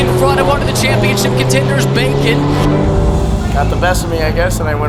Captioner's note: car engine revving